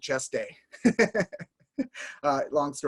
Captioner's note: laughing